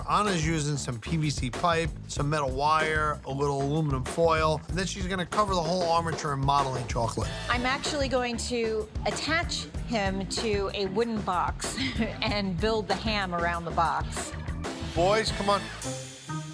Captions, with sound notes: Anna's using some PVC pipe, some metal wire, a little aluminum foil, and then she's gonna cover the whole armature in modeling chocolate. - I'm actually going to attach him to a wooden box (laughs) and build the ham around the box. - Boys, come on.